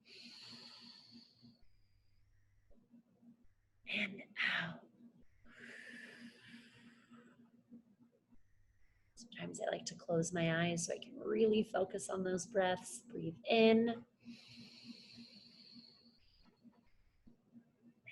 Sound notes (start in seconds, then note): 0.3 inhales; 5.5 exhales; 14.5 inhales